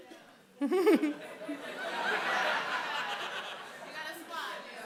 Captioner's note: laughter